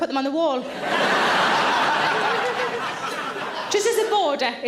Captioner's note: audience laughs